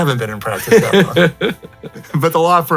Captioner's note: chuckles